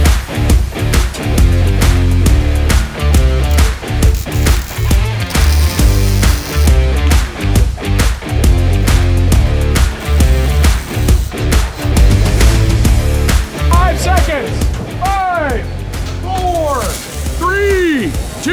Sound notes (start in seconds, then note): 0.0 upbeat rock music continues; 3.1 welder sparking; 6.4 upbeat rock music continues; 9.6 welder sparking; 16.4 welder sparking